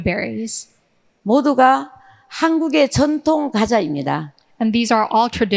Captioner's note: speaking in foreign language